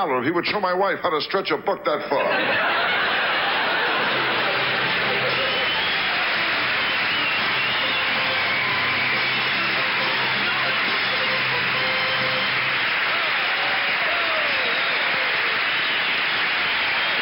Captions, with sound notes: and he would show my wife how to stretch a buck that far. (audience laughs) (orchestra riffs) (audience applauds)